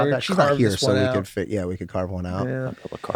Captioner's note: overlapping chatter